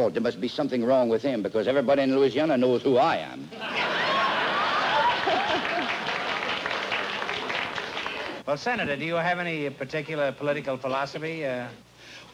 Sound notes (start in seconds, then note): 3.6 laughter